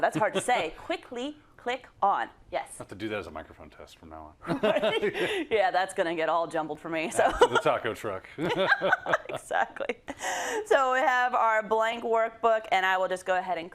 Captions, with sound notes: -Yeah, thats hard to say. Quickly click on Yes. -Ill have to do that as a microphone test from now on. [LAUGH] -[LAUGH] Yeah, thats going to get all jumbled for me. -Yeah, the taco truck. -Exactly.